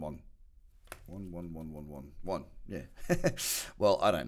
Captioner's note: laughs